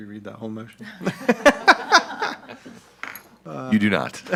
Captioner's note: all laugh